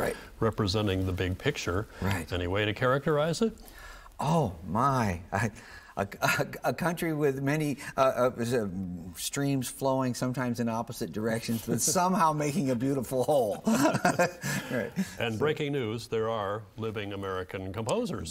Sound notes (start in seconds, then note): 13.4 both laughing